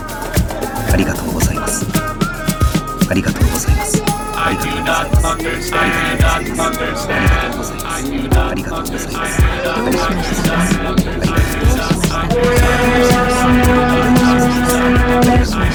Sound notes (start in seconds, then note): 0.1 intense music continues; 3.8 speaker speaking foreign language